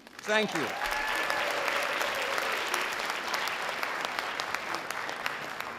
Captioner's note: sustained audience applause